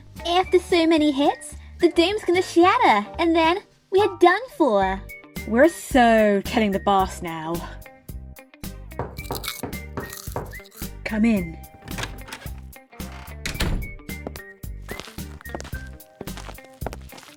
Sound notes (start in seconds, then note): 8.9 door knock; 13.0 door opens then closes